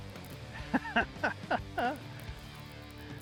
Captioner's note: laughs